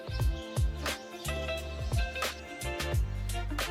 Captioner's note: hiccuping monkeys